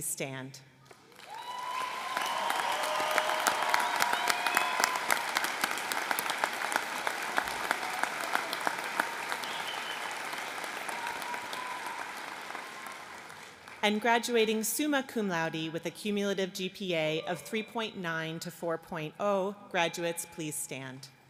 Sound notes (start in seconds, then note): 5.8 applause